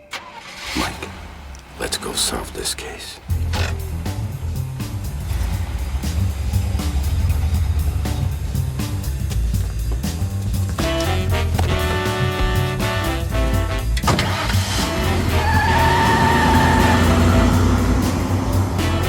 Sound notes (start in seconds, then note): 0.0 engine turns over; 13.9 engine turns over; 16.6 tires screech